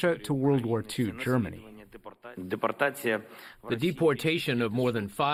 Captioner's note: through translator